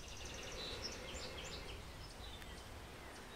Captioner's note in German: Einatemgeräusch